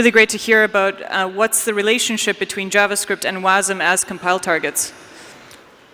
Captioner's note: none